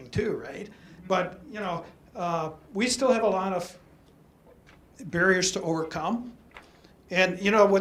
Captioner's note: audience affirmative